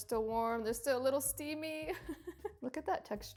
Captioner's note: chuckles